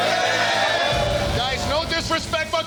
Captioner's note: yelling